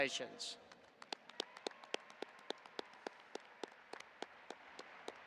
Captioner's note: audience applauding